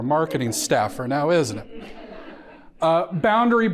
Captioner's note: audience laughing